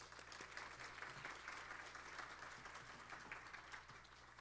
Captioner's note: applause